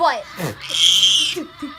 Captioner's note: scream